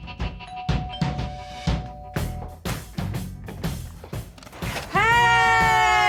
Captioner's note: doorbell rings